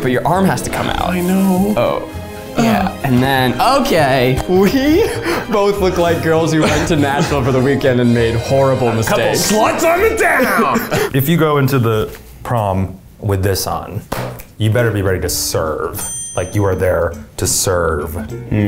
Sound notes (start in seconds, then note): 9.3 laughing